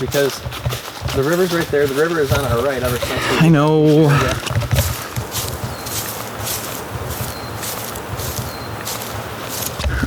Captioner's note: exasperated